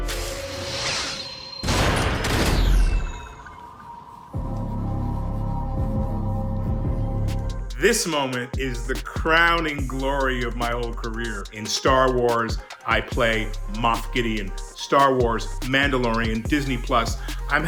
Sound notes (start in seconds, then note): 2.0 crash; 4.7 intense music